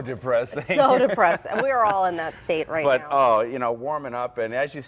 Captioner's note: laughter